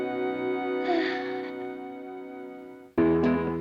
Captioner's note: sighs